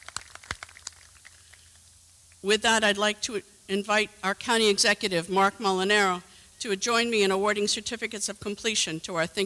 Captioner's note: applause